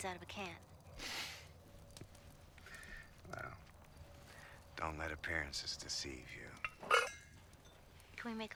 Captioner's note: laughing